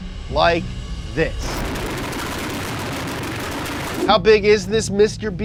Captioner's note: engine roaring